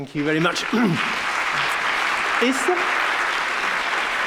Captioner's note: audience clapping